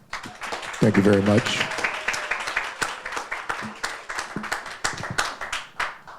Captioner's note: audience applauding